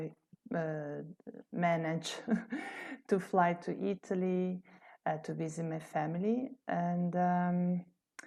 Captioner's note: laughter